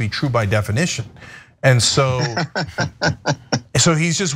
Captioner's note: laugh